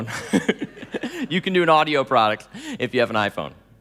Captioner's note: laughing